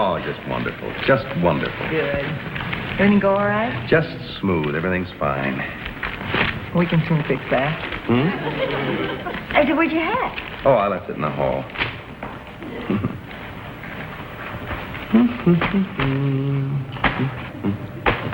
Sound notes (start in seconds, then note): 8.0 audience laughs; 14.8 humming